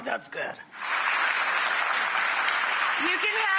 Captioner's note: audience applauding